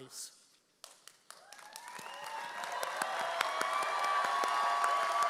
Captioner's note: audience cheers